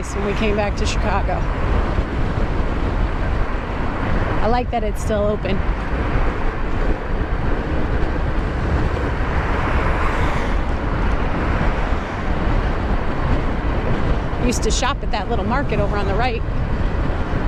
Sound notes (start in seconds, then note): none